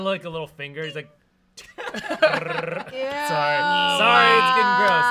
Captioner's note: makes vibration sound